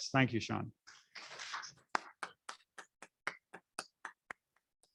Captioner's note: applauding